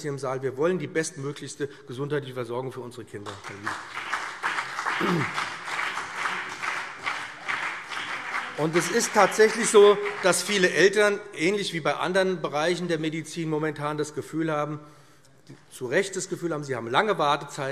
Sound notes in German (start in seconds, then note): 3.2 Beifall BÜNDNIS 90/DIE GRÜNEN und vereinzelt CDU